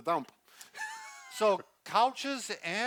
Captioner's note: chuckles